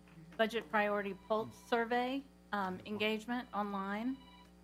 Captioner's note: phone ringing